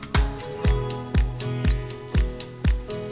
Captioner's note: leaves rustling; bicycle chain clacking